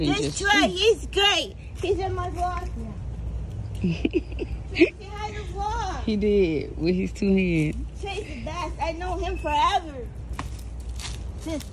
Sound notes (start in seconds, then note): 3.7 chuckles